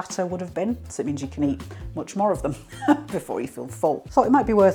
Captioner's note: laugh